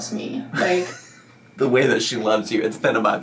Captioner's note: laughs